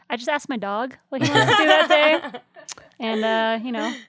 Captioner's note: other guests laugh